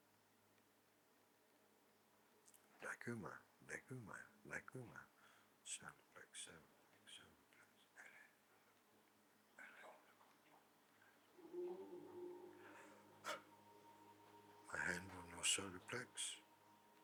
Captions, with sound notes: (speaking in foreign language) My hand was so perplexed.